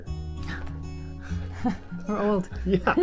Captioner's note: giggles